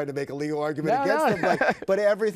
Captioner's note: laughs